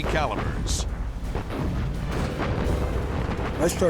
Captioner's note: explosions